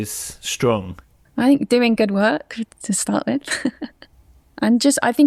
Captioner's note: laughs